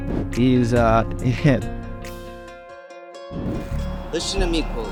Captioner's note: laughs